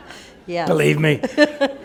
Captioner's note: laughter